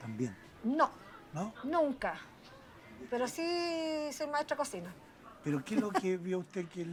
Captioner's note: rire